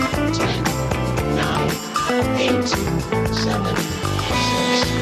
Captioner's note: robotic Voiceover